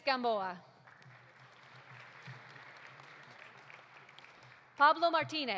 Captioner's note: audience applauding